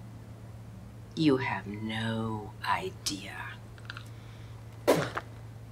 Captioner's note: spits